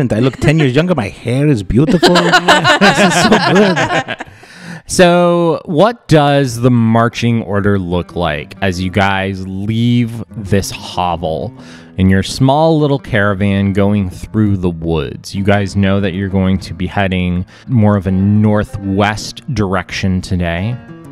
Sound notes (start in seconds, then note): 1.8 laughter